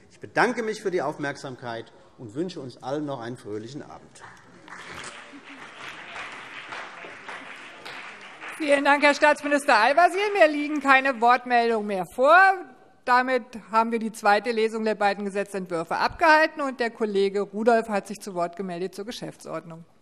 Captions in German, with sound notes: - Ich bedanke mich für die Aufmerksamkeit und wünsche uns allen noch einen fröhlichen Abend. [Beifall CDU und BÜNDNIS 90/DIE GRÜNEN] Vielen Dank, Herr Staatsminister Al-Wazir. - Mir liegen keine weiteren Wortmeldungen mehr vor. Damit haben wir die zweite Lesung der beiden Gesetzentwürfe durchgeführt. Der Kollege Rudolph hat sich zur Geschäftsordnung zu Wort gemeldet.